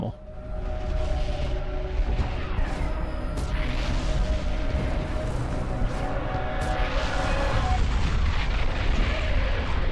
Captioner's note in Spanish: Sonidos de Escena intensa escapando de la niña fantasma :O